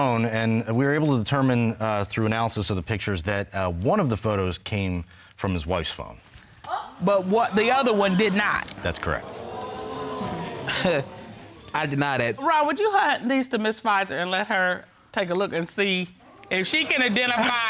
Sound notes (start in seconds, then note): 9.9 chuckles; 9.9 audience exclaims